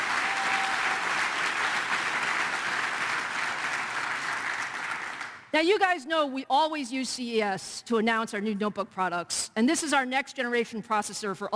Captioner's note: applause